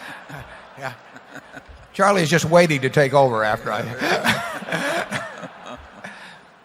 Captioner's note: laughter; laughter